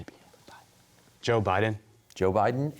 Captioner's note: whispering